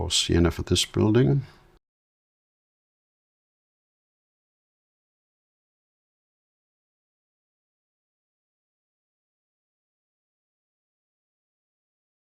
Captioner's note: silence